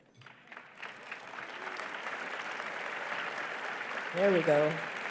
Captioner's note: applause